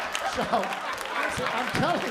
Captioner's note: laughter